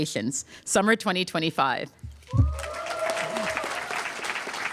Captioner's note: applause